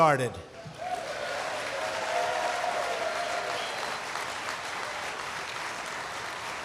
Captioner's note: applause